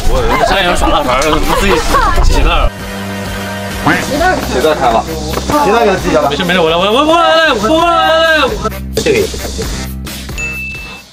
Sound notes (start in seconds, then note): 6.3 rap-style talk